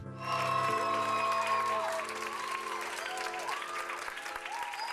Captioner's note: cheering and applause